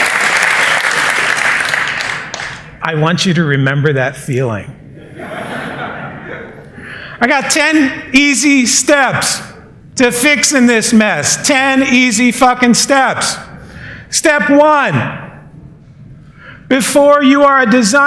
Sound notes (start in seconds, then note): 0.0 applause; 4.9 laughter